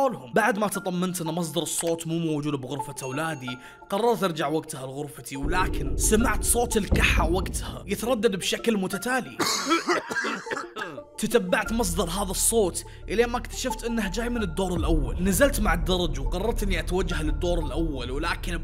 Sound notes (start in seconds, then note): 9.4 coughs in the dark